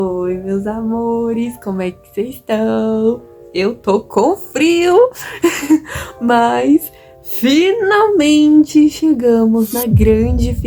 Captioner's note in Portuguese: risos